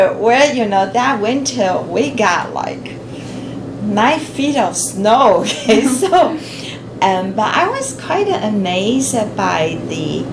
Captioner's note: laughs